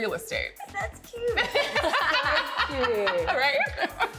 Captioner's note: laughing